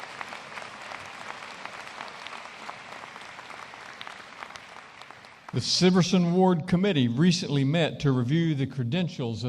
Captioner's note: applause